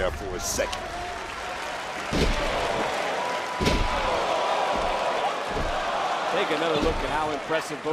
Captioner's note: crowd cheers